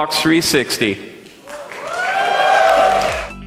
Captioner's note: applause